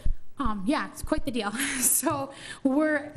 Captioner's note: laughs